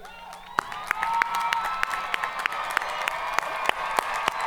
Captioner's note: audience cheering